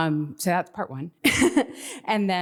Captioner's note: chuckles